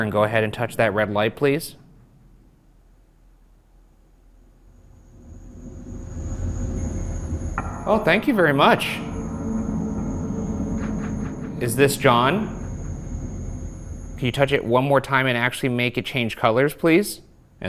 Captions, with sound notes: and go ahead and touch that red light, please? (deep ominous music) (REM pod screeching) Oh, thank you very much. Is this John? (REM pod continues screeching) Can you touch it one more time, and actually make it change colors, please?